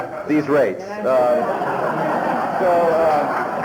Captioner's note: laughter